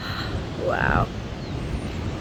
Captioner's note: amazed sigh